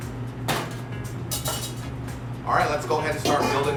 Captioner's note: clanging